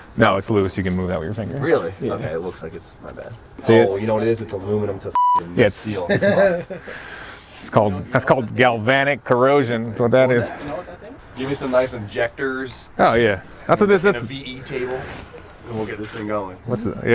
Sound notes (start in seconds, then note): 5.1 beep; 5.8 man laughs